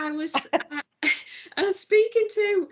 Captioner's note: laughing